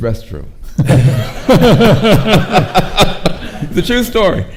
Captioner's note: laughing